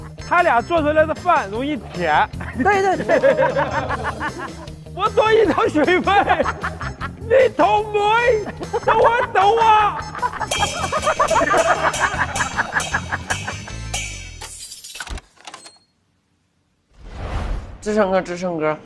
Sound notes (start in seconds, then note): 10.6 haha